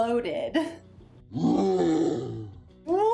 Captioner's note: Hulk grunts